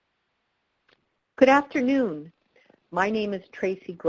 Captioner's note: voiceover